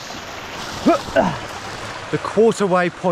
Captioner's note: grunting